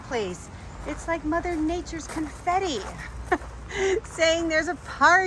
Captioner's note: laughs